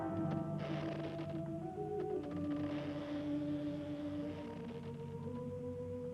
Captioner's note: brooding music rising; soft brooding music; door creaking